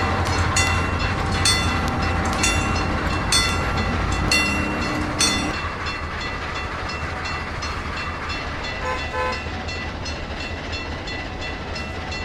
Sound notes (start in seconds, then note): 0.0 C&O Greenbrier whistle; 0.0 wig wag ringing; 6.4 ringing stops